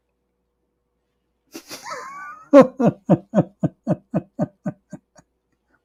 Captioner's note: Ketawa